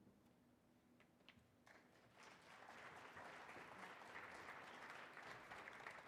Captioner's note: audience applauding